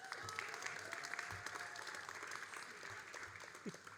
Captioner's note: all applauding